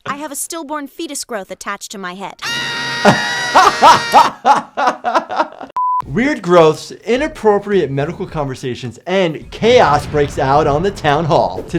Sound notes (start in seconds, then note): 2.4 Kyle screams; 2.5 laughs